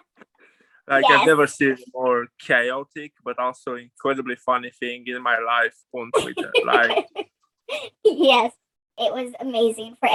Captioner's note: laughs